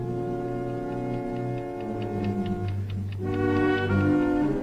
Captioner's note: bomb ticking